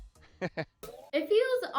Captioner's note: laughs